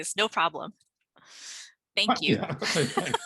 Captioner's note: laughter